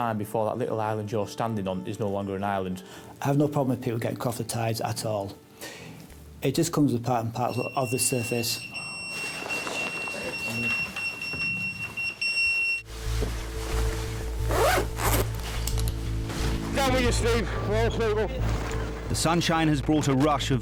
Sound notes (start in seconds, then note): 7.4 pager beeps; 12.9 dramatic music